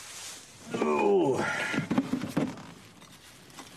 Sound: old man noises

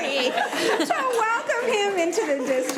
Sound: committee laughing

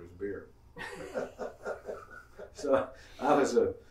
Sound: laughing

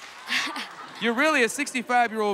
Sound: laughs

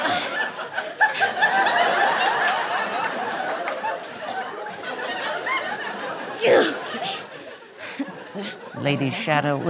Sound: grunting

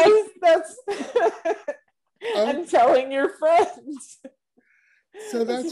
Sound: laughs

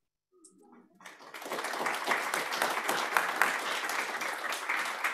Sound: applause

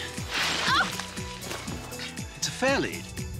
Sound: yelps

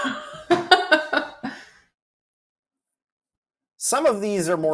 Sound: laughs

